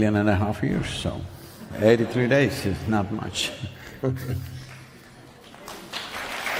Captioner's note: applause